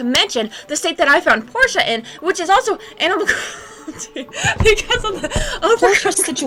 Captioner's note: laughing